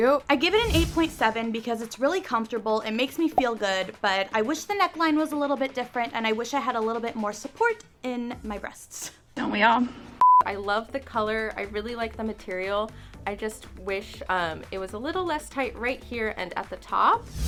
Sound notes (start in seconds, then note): 10.2 audio beeping